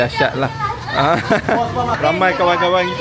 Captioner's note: laugh